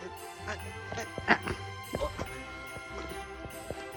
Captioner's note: grunting